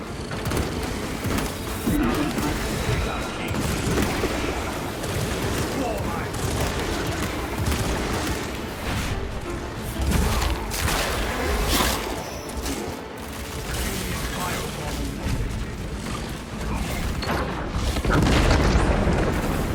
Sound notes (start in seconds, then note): 3.1 gunfire